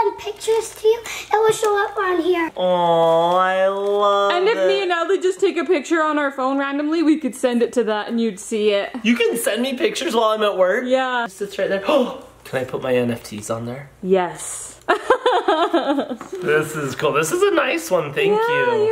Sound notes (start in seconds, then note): 15.0 laughs